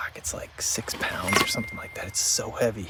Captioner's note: bell dings